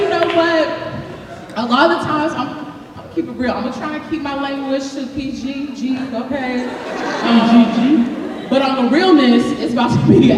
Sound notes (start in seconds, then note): 6.5 laughter